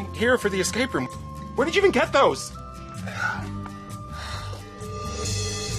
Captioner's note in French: soupire